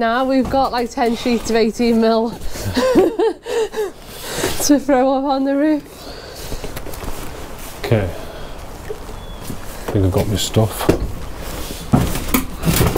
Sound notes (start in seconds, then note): 2.5 laughs